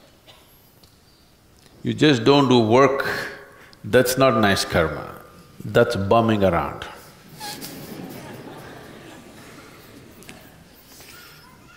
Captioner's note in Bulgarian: Смях